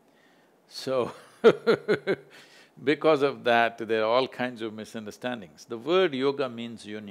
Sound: laughs

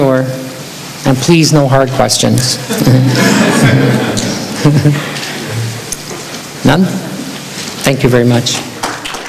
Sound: laughter

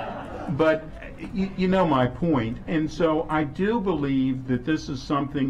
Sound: laughter

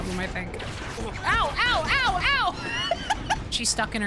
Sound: laughing

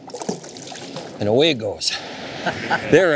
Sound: laughing

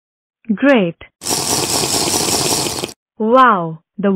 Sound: drinking

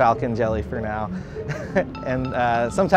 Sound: laughs

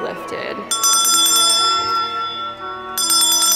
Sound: bell rings

